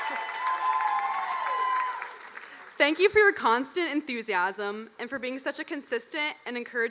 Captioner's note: cheers and applause